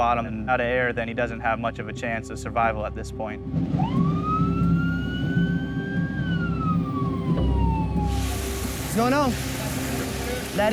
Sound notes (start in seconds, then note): 3.7 siren blaring